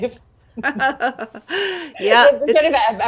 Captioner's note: laughing